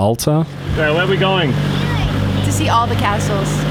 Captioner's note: child speaks